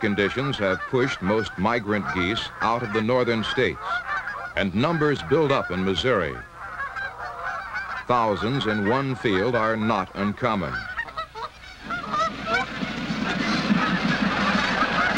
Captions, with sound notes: out of the northern states and numbers build up in Missouri. Thousands in one field are not uncommon. (Geese sounds)